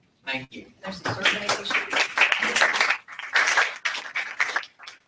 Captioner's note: applause